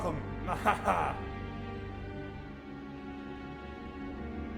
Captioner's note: laughing; dramatic music